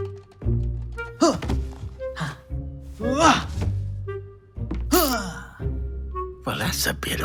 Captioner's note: grunts